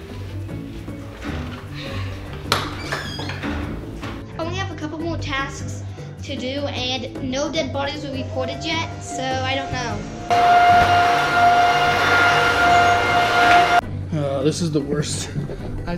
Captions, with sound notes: (door opens) - I only have a couple more tasks to do and no dead bodies were reported yet. So I don't know. (vacuum cleaner running) - Ugh. This is the worst.